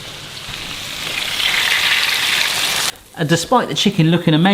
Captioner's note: chicken sizzling